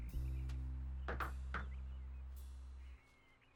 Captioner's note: knocks door